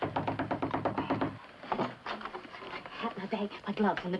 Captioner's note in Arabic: طرق الباب